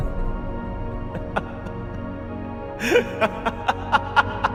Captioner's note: laughing